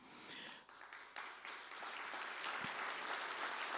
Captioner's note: applause